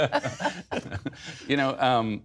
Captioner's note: laughter